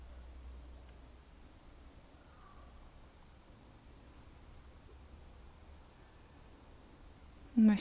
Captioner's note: silence in the background